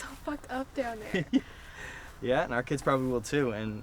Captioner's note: laughs